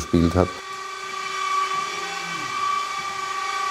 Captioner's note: sounds of sawing